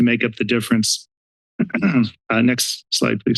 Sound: clears throat

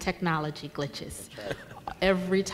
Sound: laughing

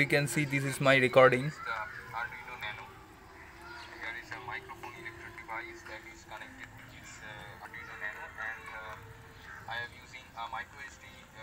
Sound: recorded Audio Playing

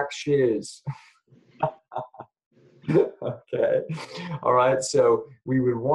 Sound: laughs

